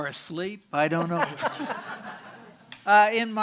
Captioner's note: audience laughing